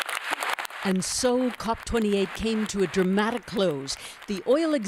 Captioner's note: applause